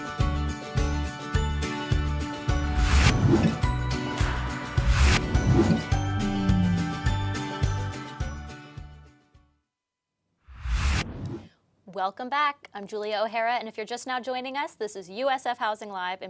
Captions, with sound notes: (whooshing sound) (whooshing sound) (whooshing sound) - Welcome back. I'm Julia O'Hara. And if you're just now joining us, this is USF Housing Live